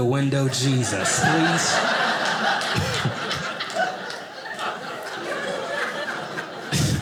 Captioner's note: audience laughing